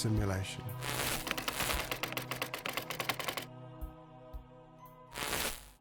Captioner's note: keys clicking; static crackling